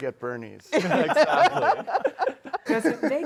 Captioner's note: laughter